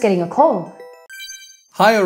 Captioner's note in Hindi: बीप की आवाज़